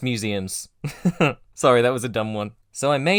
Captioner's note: laugh